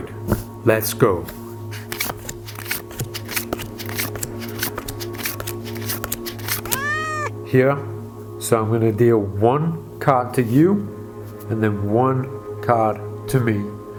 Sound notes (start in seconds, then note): 1.8 cards shuffling; 6.6 cat meows